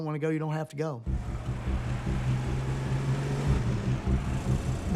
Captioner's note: engine roaring